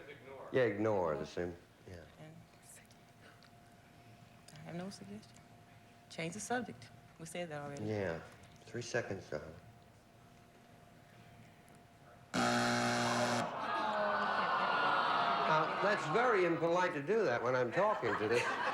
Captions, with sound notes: YEAH, IGNORE, THE SAME. I'VE GOT NO SUGGESTIONS. CHANGE THE SUBJECT. WE SAID THAT ALREADY. YEAH. 3 SECONDS, DARLING. [BUZZER] I CAN'T THINK OF ANYTHING. NOW, THAT'S VERY IMPOLITE TO DO THAT WHEN I'M TALKING TO THIS--